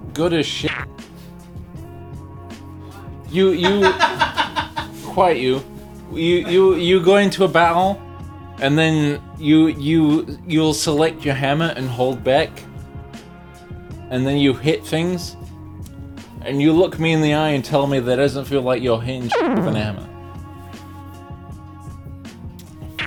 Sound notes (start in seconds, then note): 3.4 laughs